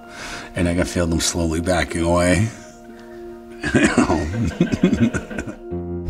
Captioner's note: laughs